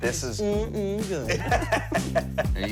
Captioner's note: laughter